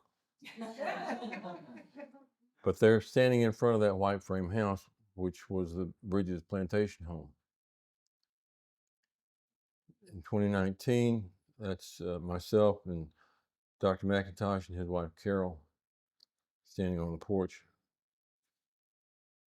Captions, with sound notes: (audience laughing) But they're standing in front of that White Frame House, which was the bridge's plantation home. In 2019, that's myself and Dr. McIntosh and his wife, Carol, standing on the porch.